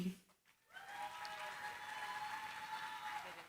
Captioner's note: cheering, applause